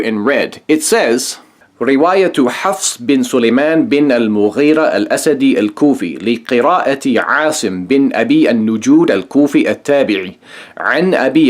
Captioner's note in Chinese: 念阿拉伯语